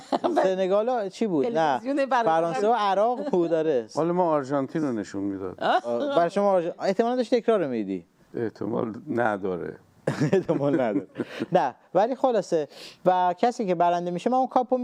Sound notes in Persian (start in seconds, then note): 10.0 خنده